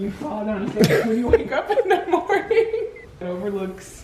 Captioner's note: laughing